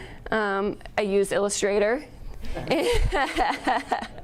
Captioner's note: laughs